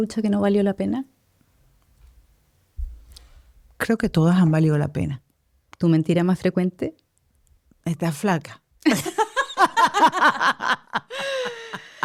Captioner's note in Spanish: risas